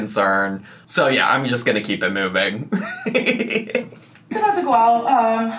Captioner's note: laughs